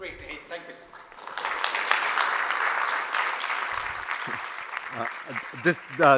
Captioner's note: applause